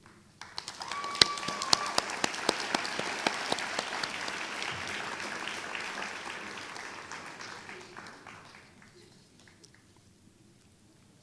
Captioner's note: applause